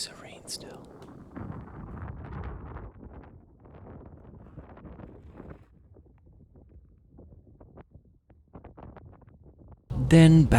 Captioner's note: wind blowing